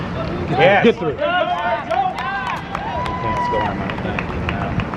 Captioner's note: cheers and clapping